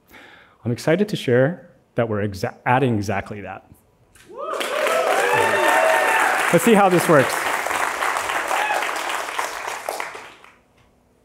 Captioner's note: applause